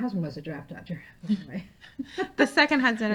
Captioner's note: laughing